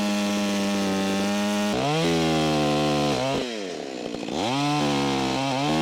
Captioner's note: chainsaw buzzing continues